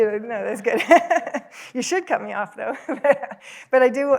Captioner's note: laughs